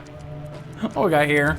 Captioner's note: laughs